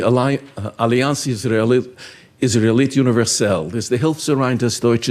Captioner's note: speaking in foreign language